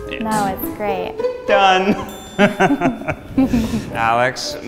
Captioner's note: laughs